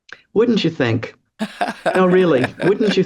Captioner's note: laughs